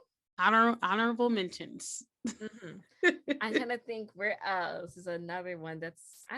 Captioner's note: giggle